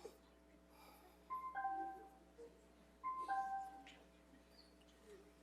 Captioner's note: device chiming